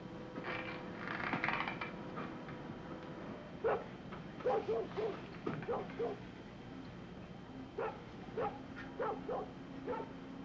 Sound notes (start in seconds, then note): 0.2 floor creaking; 4.4 dog barking